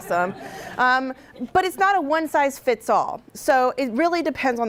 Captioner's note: laughter from audience